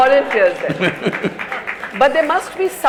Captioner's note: laughter/Applause; Sadhguru laughs